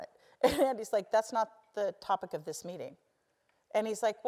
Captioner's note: laugh